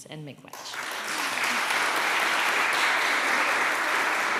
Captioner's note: applause